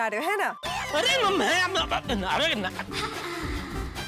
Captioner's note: stuttering